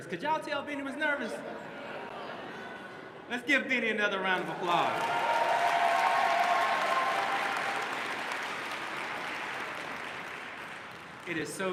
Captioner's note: applause